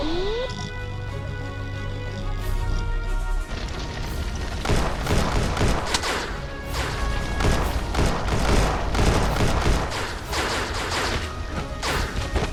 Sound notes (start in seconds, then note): 4.0 guns firing